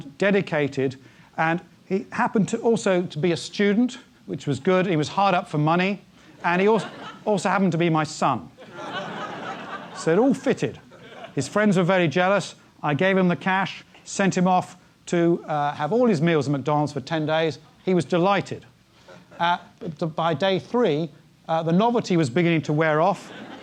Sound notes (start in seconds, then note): 8.6 laugh; 23.2 laugh